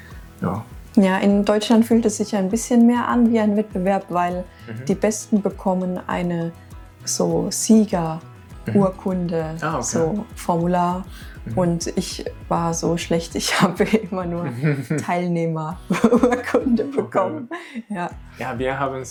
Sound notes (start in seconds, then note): 15.9 laughs